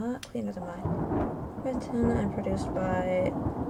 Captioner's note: sound of thunder